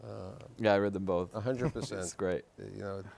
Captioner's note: chuckles